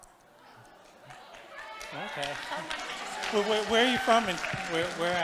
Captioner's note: congregation applauding